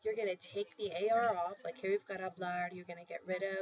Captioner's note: spanish